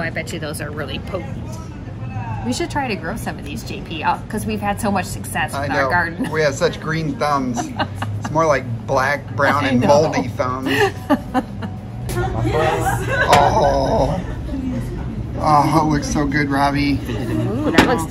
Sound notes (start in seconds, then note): 10.6 laughing